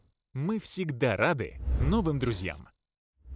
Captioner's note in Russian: звук велосипедного звонка